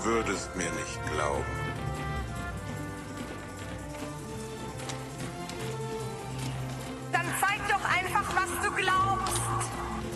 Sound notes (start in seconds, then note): 3.0 gravel crunching